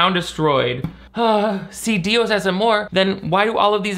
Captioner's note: sighs